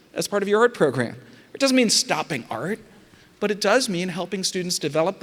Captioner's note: none